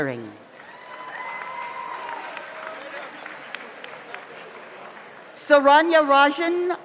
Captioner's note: audience applauds; audience cheers